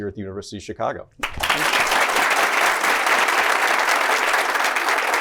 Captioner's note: applause